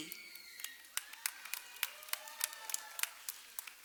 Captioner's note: cheers and applause